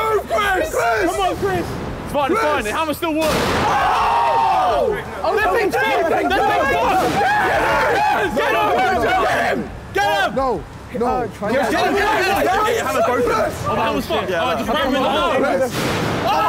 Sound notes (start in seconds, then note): 3.5 all cheering; 3.7 metal clanking